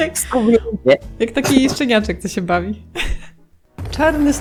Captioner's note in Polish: śmiech